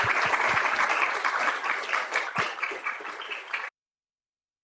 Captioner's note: applause